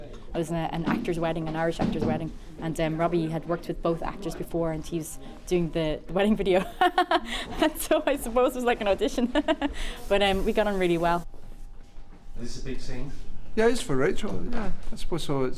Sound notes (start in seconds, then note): 6.6 laughs